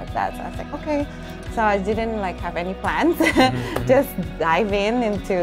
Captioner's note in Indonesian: tertawa